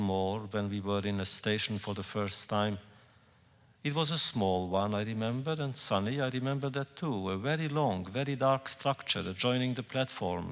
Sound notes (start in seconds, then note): none